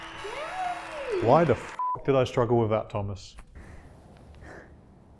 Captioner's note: cheering; beep